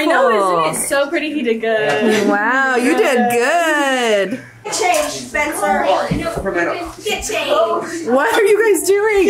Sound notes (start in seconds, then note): 1.9 group chuckles